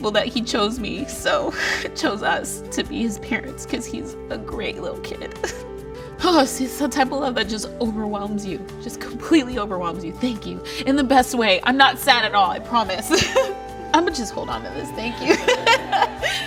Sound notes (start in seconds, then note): 13.1 laugh-cries; 15.2 laughs